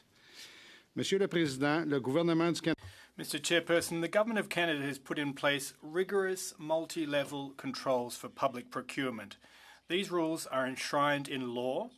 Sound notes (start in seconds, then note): 5.3 speaking French